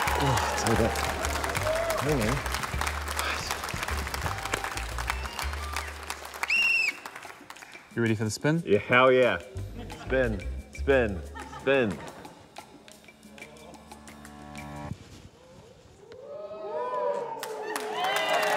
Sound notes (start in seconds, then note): 0.3 grunts; 2.2 applause; 6.4 blows whistle; 16.2 cheering, applause